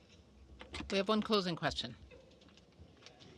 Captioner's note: speaking French